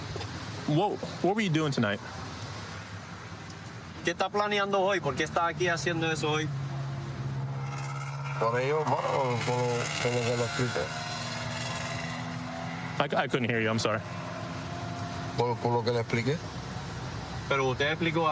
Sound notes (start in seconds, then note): 4.1 speaking spanish; 14.4 speaking spanish